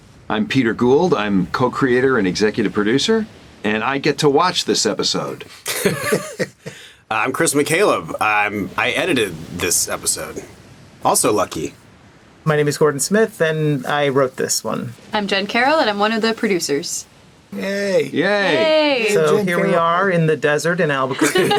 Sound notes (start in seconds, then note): 5.6 laughing